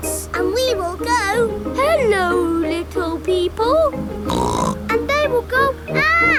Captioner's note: snorts